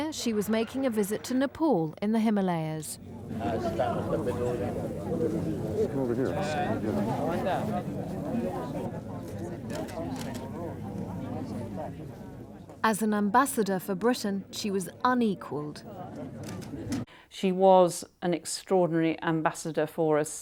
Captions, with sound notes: Here, she was making a visit to Nepal, in the Himalayas. (crowd chattering) As an ambassador for Britain, she was unequaled. - She was an extraordinary ambassador for us